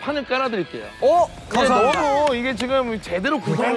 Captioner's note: big applause